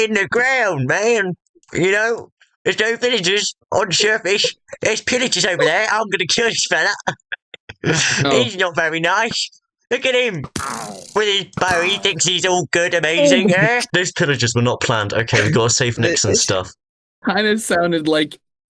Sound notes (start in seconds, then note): 5.4 laughing